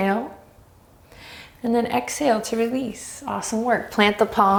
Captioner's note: deep breaths